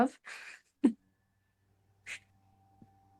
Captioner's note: chuckles